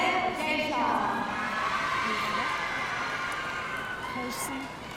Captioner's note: audience cheering